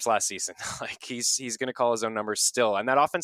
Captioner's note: laughs